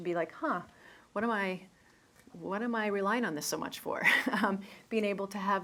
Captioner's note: chuckles